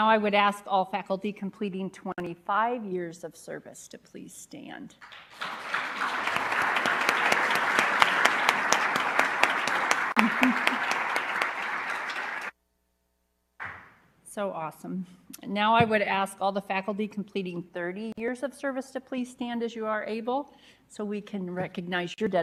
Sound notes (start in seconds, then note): 9.0 applause